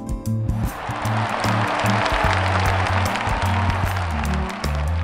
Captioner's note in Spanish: Aplausos